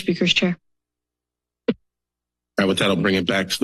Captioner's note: silence